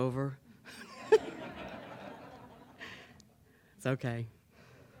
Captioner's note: laughter